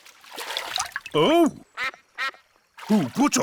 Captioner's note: quacks